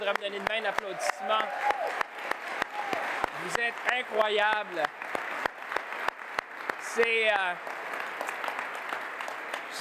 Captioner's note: applause